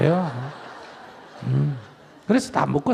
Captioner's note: audience Laughter